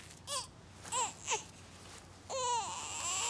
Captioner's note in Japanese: 泣き声